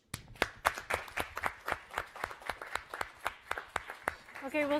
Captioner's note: all applauding